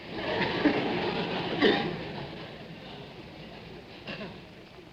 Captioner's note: audience laughing